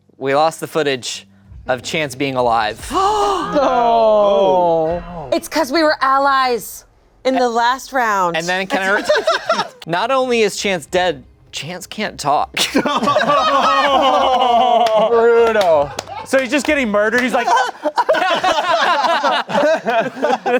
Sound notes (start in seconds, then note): 8.6 laughing; 12.7 everyone laughing